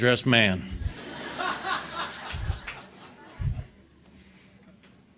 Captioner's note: audience laughter